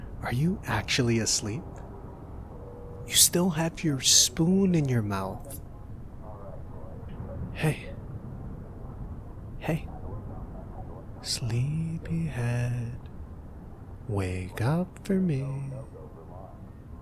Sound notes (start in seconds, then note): 7.5 quietly